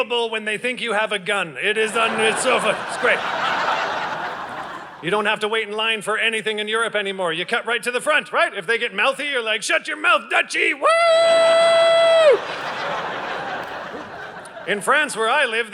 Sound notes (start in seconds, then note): 1.8 audience laughing; 12.1 audience laughing